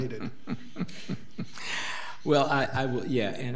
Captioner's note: board laughing